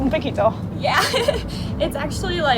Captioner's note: laughs